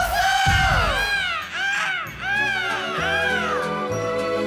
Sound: group groaning

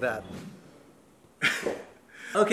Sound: chuckles

